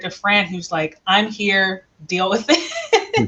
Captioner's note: laughs